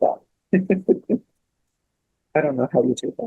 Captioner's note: laughs